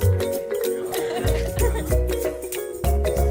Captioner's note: laughter